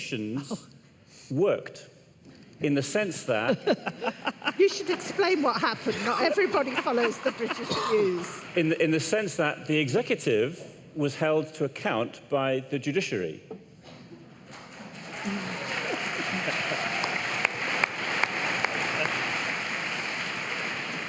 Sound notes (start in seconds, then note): 7.3 laughter